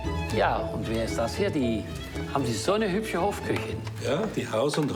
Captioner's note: gentle music continues; speaking foreign language